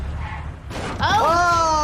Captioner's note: car thuds